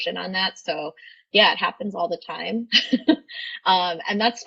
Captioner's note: laughs